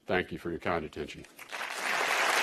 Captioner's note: applause